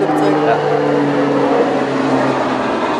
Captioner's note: plane flies